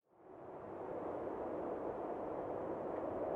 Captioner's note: wind howling